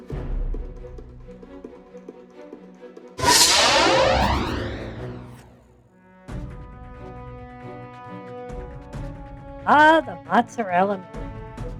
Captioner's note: sarcastically